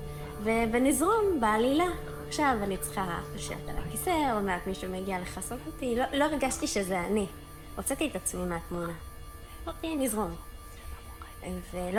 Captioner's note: Hebrew